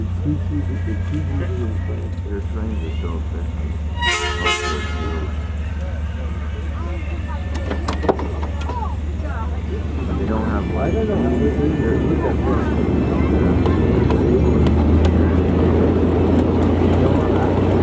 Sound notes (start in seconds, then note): 3.9 train horn sounds